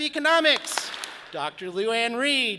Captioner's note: audience claps